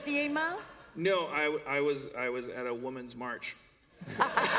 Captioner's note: laughter